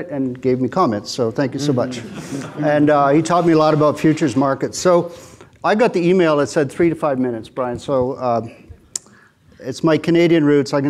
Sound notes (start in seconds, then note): 1.6 audience chuckling